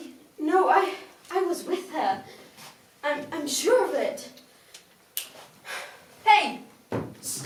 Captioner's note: Wren snaps fingers